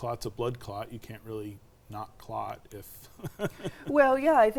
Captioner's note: laughs